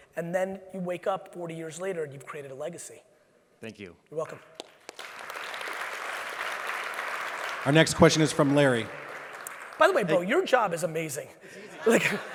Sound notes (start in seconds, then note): 4.6 audience applauds